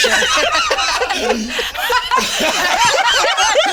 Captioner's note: all laugh